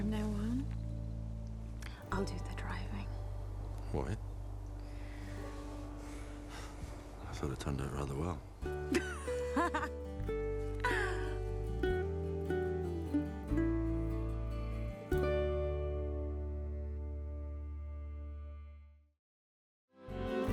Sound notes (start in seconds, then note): 8.8 Kate laughs; 9.4 gentle music